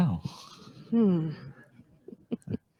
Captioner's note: chuckles